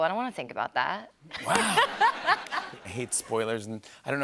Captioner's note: laughter